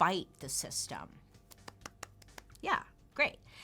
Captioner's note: claps